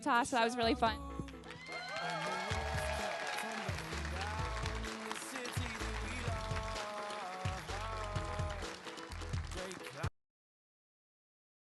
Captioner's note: audience Applause